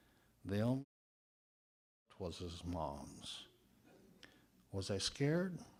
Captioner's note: audio drop